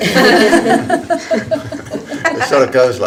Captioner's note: attendees laughing